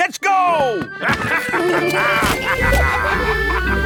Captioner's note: all laughing